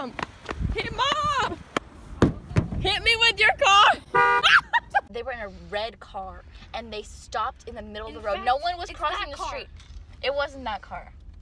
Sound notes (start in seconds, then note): 2.1 hitting car; 3.5 exclaims; 4.0 car horn